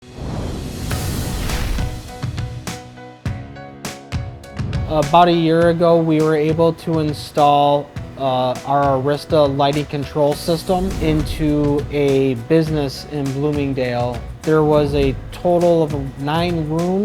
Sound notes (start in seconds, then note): 0.0 note swooshes; 0.8 upbeat snappy music